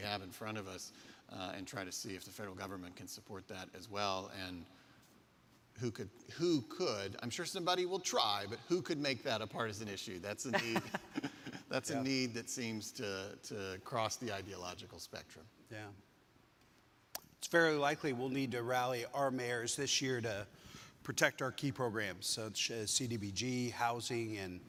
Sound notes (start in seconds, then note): 10.5 laughing; 10.5 laughs